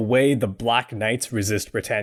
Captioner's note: none